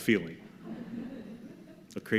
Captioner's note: soft laughter